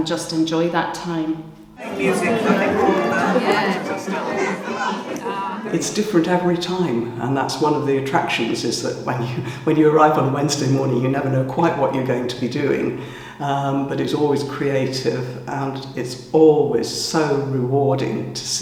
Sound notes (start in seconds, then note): 1.7 room chatter